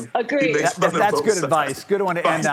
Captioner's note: laughter